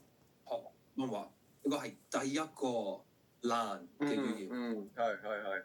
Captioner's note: Cantonese